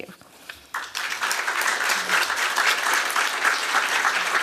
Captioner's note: applause